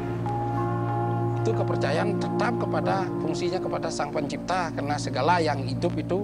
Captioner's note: speaking foreign language